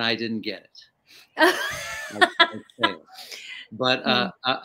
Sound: laughing

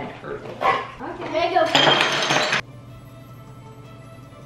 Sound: rattling

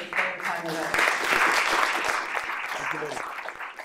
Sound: applause

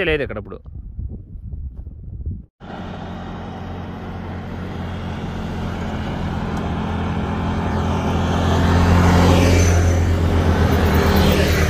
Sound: vehicle noise

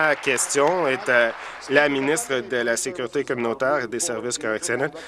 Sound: applause

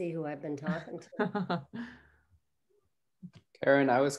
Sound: chuckles

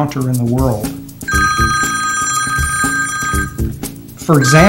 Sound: phone ringing

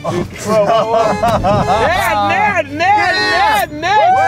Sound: laughing

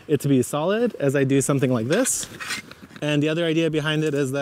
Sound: rake clatters

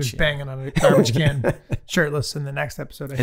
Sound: Rob laughing

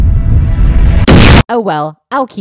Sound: boom!

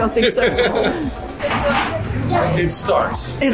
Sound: laughing

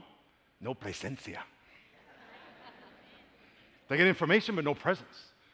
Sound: spanish

